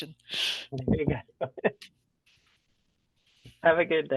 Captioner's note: all laughing